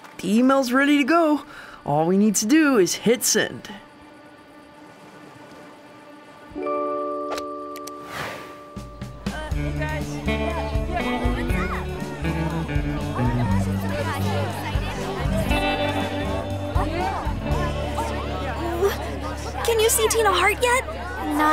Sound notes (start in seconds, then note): 5.0 dramatic music; 7.7 click; 9.8 gentle music; 12.1 kids chattering